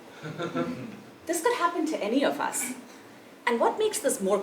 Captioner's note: laugh